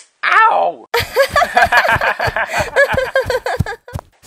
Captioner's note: laughing merrily